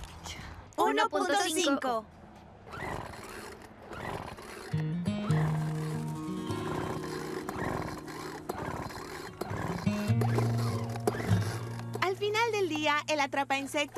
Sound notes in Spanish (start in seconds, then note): 1.9 zumbido de motor prendiendo y apagando